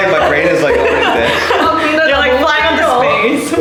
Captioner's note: all laughing